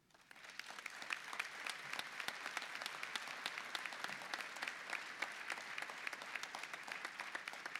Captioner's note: applause